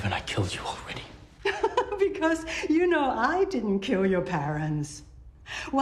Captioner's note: chuckles